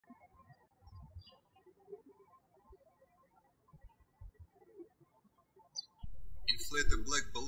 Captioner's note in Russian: птички щебечут